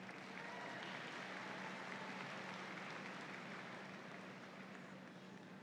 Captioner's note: audience applauds